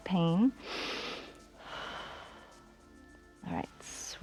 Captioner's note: inhales and exhales